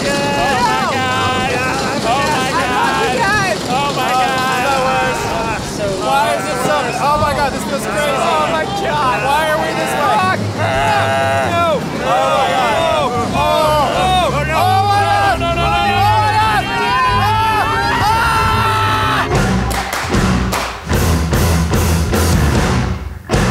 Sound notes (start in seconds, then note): 16.5 collective screaming; 19.2 upbeat intro music